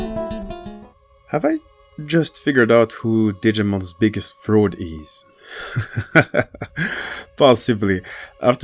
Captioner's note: laughs